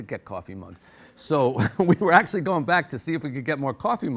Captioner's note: laughs